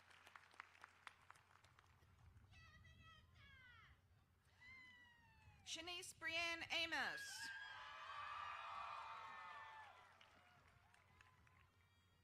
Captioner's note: applause